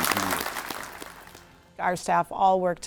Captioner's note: audience applauds